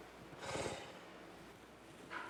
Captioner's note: exhaling